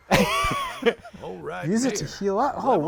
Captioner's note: laughter